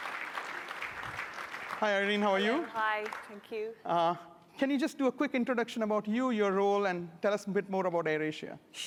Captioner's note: applause